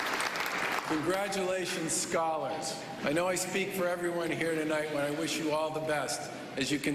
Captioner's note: cheering